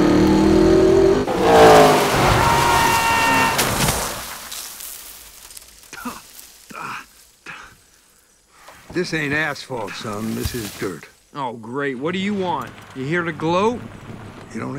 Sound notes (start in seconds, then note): 2.1 Lightning screams; 6.2 lightning spits